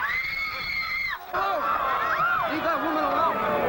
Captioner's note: screaming